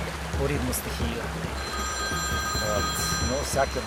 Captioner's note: Phone ringing